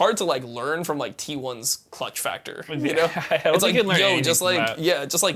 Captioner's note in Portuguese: risos